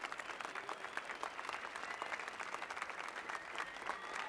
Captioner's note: applause and cheers